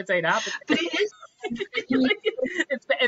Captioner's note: both laughing